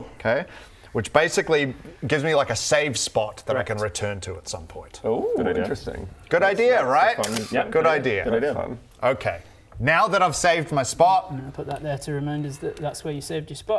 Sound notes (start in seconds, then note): 7.2 snap